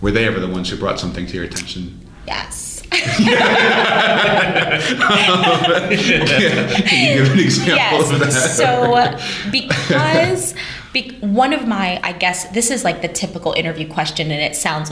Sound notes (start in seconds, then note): 6.2 laughter